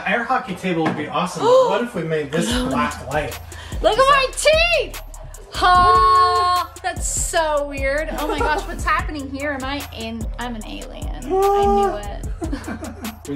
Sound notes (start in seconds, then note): 2.4 gasps; 11.3 laughs